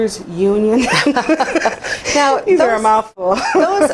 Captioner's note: laughs